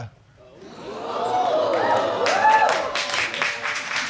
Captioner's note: audience gasps; applause and cheers